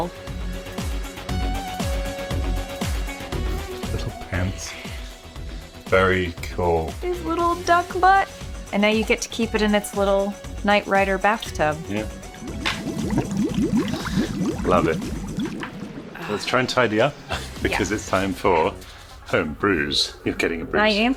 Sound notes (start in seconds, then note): 0.0 upbeat techno music; 13.0 water burbling